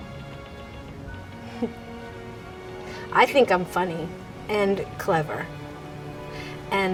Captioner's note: chuckles